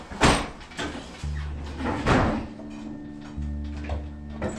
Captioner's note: machines clanging